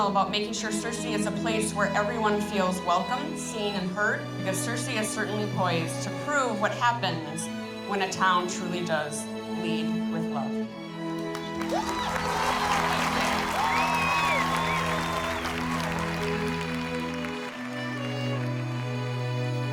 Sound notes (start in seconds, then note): 11.2 clapping and cheering; 16.9 gentle music